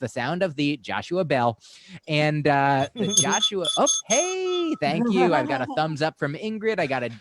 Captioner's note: sound of bell